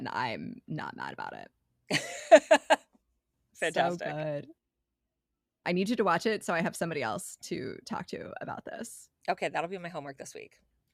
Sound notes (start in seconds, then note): 3.0 laughing